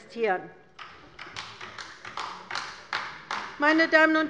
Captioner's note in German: Beifall bei der LINKEN